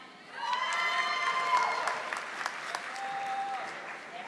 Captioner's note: audience applauding